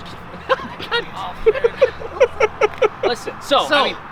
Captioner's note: all laughing